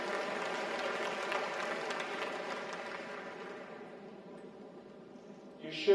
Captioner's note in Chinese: 掌聲